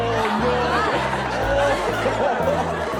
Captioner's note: laughter